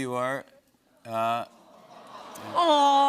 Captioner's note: audience awws